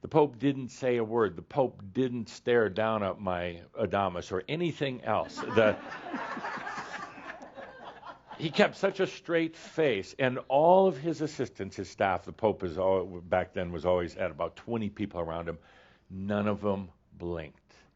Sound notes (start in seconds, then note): 5.2 laughter